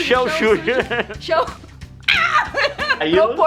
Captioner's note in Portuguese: risos; grito de alegria